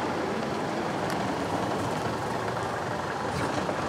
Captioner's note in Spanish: sonido del motor